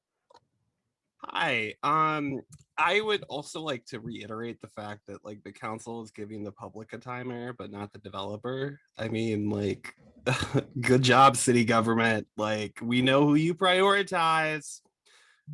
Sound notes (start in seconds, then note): 10.2 laughter